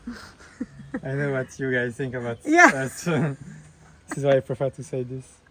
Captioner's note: laughing